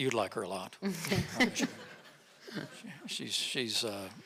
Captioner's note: audience laughing